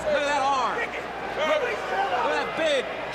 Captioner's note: crowd chatter